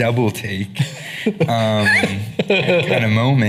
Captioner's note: laughing